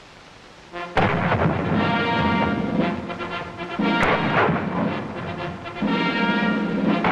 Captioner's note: band playing; cannon fire